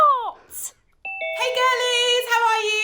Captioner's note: doorbell